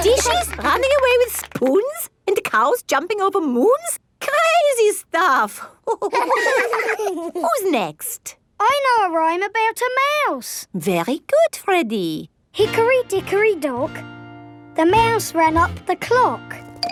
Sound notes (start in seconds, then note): 0.0 both laugh; 5.9 all laughing